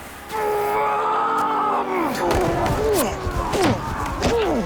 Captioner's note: Leopold Roars